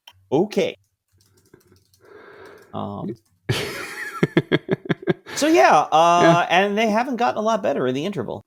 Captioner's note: laughing